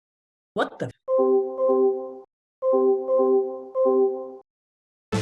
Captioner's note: notification dinging